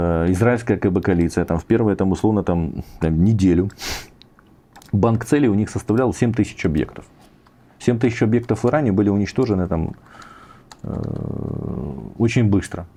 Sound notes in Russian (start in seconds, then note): 4.1 фыркает